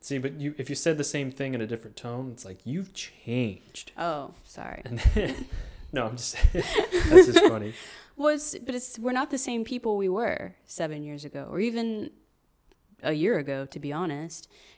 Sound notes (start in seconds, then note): 6.4 laughing; 6.4 laughs